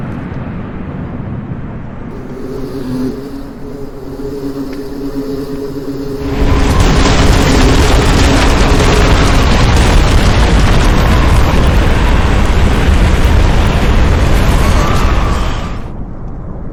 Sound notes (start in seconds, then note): 3.1 wind whooshing; 6.8 explosion booming; 6.8 wind whooshing